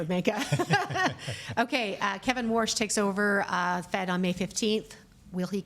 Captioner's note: laughs